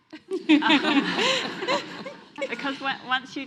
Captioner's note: audience laughs